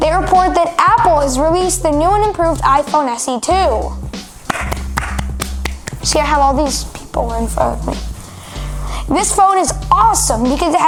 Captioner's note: echo | clapping